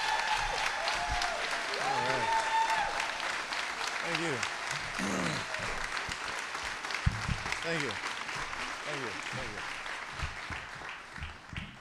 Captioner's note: cheers and applause